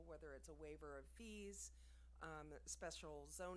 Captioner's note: none